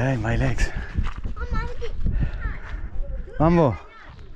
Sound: children playing

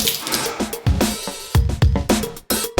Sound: water spitting sound; Si-Won sighs

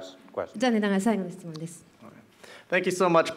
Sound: speaking japanese

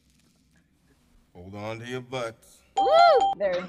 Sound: bell ringing

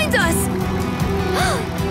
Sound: gasping

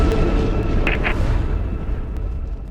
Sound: static

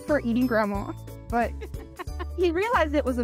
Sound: laughs

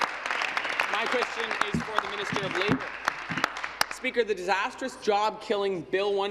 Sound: applause

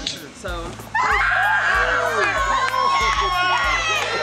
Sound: cheering

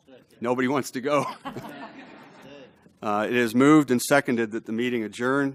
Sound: laugh

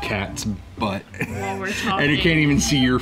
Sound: man chuckling

